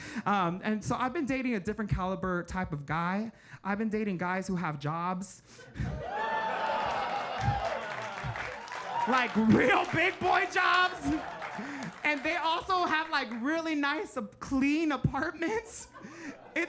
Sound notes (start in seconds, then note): 6.0 audience cheering and clapping